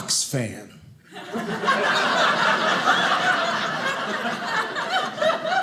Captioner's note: audience laughing